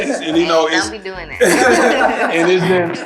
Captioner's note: laughing loudly